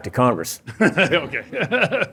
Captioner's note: chuckles